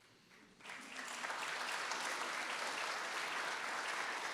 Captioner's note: audience applauding